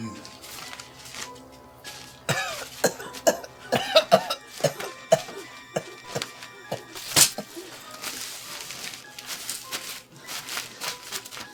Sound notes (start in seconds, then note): 2.1 Alex coughs; 2.5 Gerry chuckles